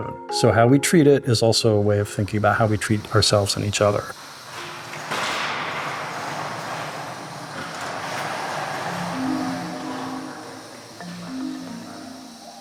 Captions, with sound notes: So how we treat it is also a way of thinking about how we treat ourselves and each other. [ AIR HISSING ]